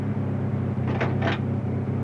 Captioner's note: metal clanking